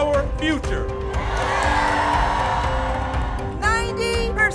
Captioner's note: audience cheers